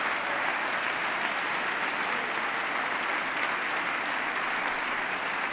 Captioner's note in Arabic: تصفيق